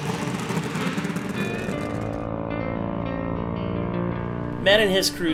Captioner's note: car engines revving